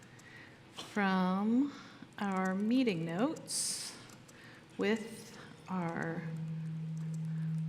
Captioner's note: typing